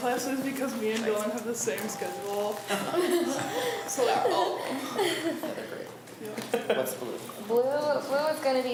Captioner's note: laughs